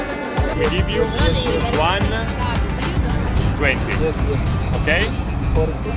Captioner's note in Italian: Inglese